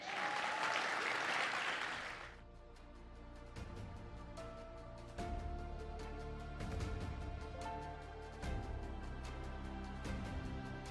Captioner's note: applause